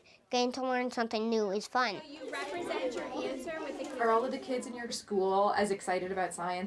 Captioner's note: laughs